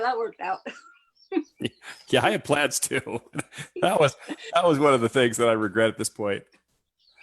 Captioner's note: laughs